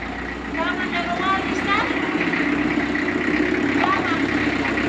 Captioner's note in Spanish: Mujer habla en quechua